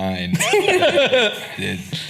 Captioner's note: laughing